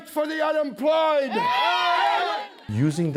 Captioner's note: cheering and applause